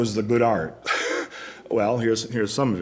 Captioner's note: laughs